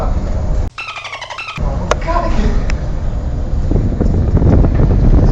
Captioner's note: birds chirping sounds